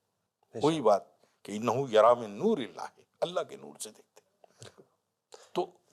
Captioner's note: Arabic